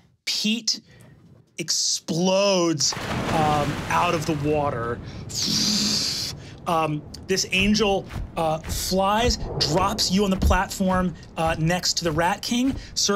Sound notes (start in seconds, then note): 2.9 water gushing; 5.4 blows air